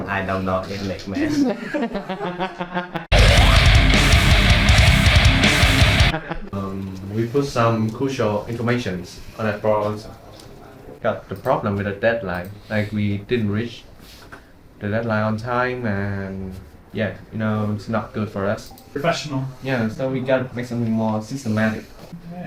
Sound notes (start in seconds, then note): 1.8 laughing; 3.1 metal music